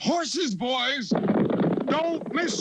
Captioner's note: horses hooves